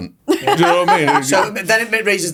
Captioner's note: laughs